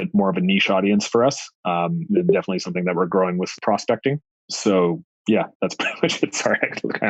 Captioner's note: laughs